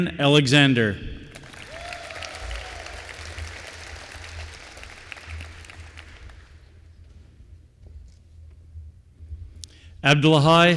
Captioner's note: applause